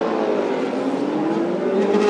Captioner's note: engine revving